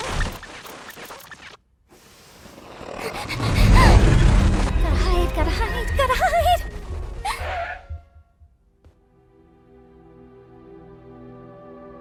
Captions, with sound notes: -[panting] [Kaufmo growling] -Gotta hide, gotta hide, gotta hide. [gasps] [pensive music plays]